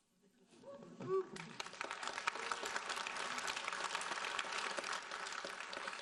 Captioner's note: audience applauding